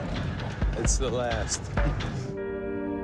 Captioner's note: chuckles; gloomy music playing